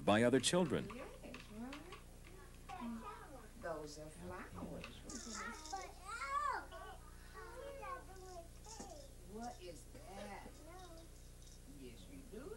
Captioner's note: people talking